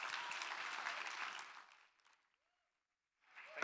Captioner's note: applause